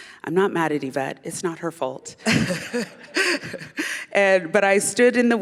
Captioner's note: laughter